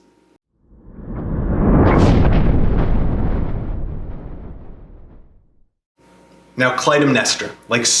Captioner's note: thunder